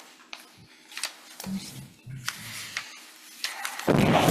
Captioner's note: paper rustling